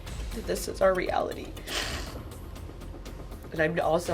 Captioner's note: sniffles